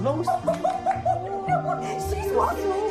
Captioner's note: laughing